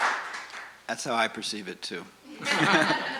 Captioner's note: laughs; audience laughs